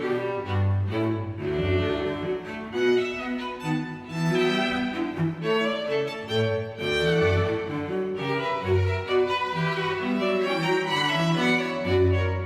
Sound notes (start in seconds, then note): none